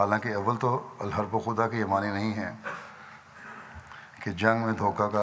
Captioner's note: Arabic